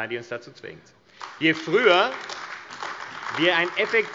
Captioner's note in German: Beifall AfD